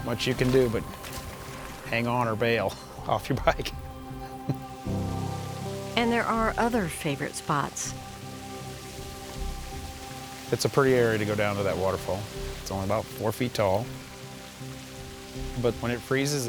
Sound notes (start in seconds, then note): 4.8 water rushes